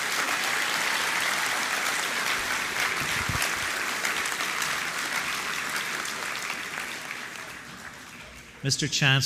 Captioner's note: applause